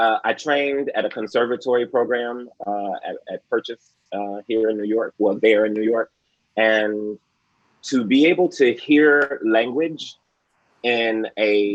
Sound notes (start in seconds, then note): none